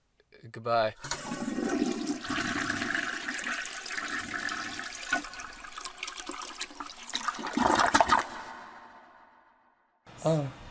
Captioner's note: toilet Flushing